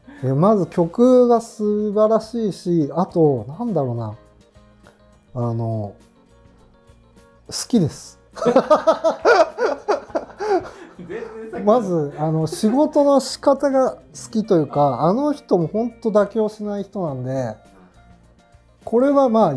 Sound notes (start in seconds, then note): 8.4 laughing